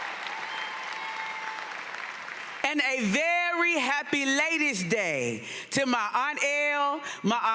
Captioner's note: cheering and applause